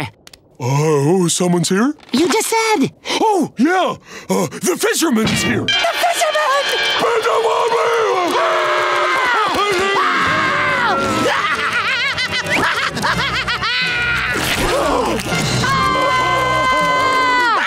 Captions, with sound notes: Oh someone's here? -You just said-- Oh, yeah, the fisherman's here! The fisherman! [screaming] [laughing] [screaming]